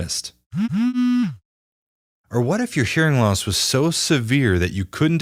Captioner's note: haptic buzzing sound